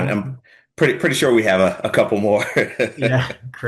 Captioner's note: chuckles